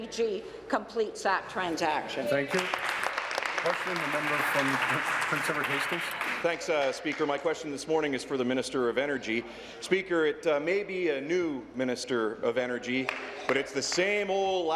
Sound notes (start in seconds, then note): 6.2 applause